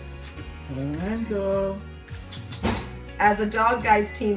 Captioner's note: kiss kiss noise